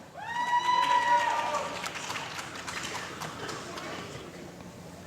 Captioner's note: applause